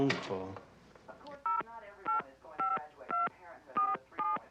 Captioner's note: phone beeping